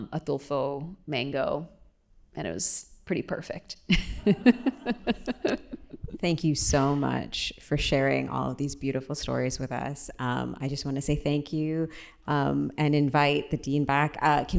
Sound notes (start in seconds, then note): 3.9 laughter